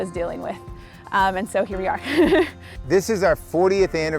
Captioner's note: laughs